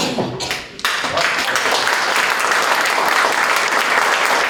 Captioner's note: applause